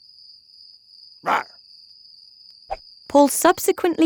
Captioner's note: Paul roaring shortly